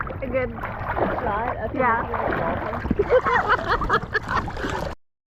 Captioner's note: laughs